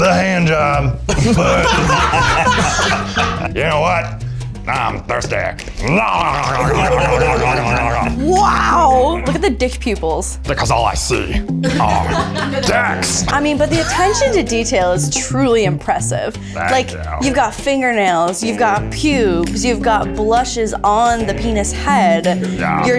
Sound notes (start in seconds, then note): 1.1 laugh; 11.1 in puppet voice; 16.8 in puppet voice